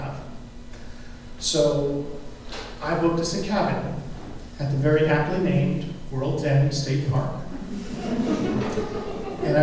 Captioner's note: laughter